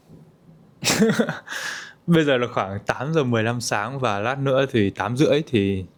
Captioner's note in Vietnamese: tiếng cười